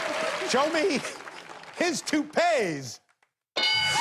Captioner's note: chuckles